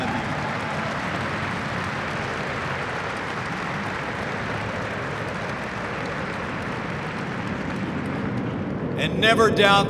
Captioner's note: applause